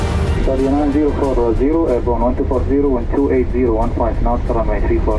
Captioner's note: pilots talking over radio